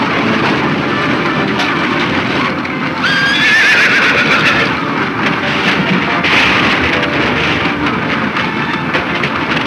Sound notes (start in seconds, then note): 3.0 horse whinnies